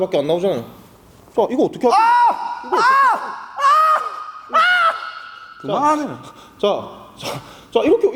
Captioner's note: continuous screaming in the background